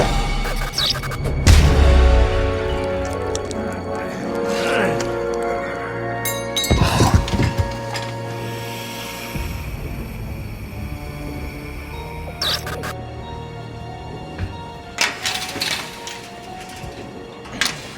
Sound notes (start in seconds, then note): 0.3 fist thud; 0.3 lights buzzing; 2.7 blood squelches; 4.0 vampire grunts; 6.5 Dell thuds; 6.9 vampire hissing; 8.3 tense music; 12.2 lights buzzing; 12.2 solemn music